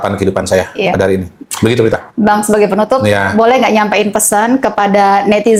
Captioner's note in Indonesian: berdehem